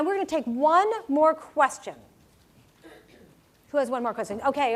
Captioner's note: cough